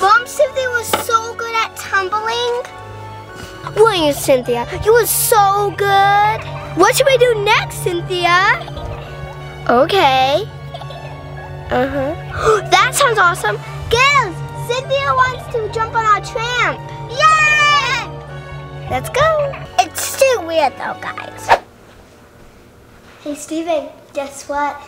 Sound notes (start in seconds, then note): 12.2 gasps; 17.1 girls cheering